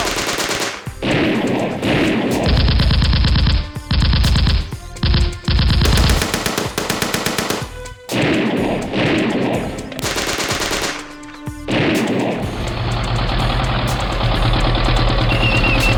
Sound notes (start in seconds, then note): 0.0 gunfire rattles